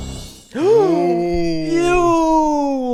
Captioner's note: tense music playing; gasping